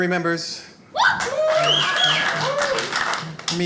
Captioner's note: audience cheering